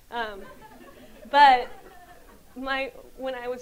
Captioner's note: audience laughs